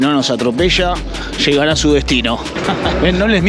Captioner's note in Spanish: risas